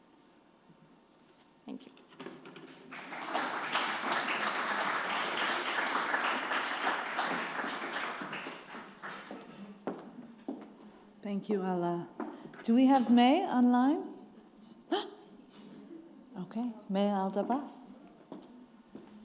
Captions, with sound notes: Thank you. (attendees clapping) (heels clicking) - Thank you, Ala. Do we have May online? (gasps) Okay, May Al-Dabbagh.